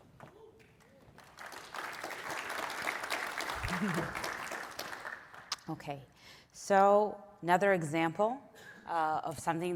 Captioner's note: applause